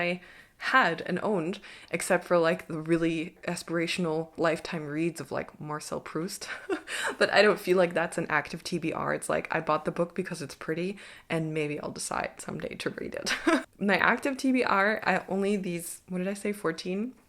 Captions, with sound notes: I had and owned except for like the really aspirational lifetime reads of like Marcel Proust [laughs] but I don't feel like that's an active TBR. It's like, I bought the book because it's pretty and maybe I'll decide someday to read it. My active TBR are only these, what did I say? 14?